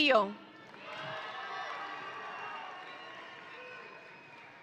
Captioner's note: audience cheering